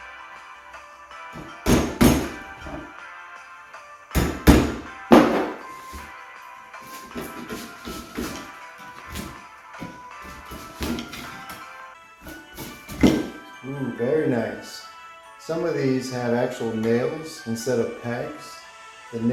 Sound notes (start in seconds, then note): 1.3 hammer banging; 9.1 wood banging gently